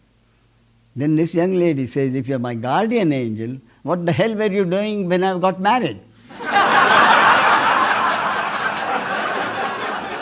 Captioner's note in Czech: smích